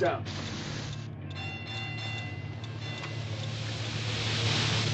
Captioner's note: alarm